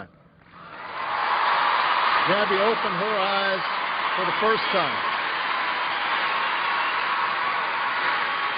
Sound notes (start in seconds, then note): 0.6 cheers and applause